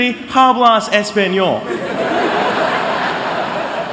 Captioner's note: laughter